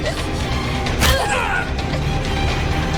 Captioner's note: loud stab; guttural yell